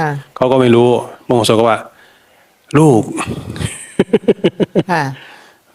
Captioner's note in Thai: เสียงหัวเราะ